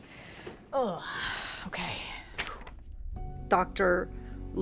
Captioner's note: exhales